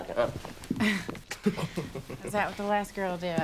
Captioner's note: laughing